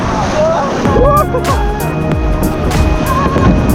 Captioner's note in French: rires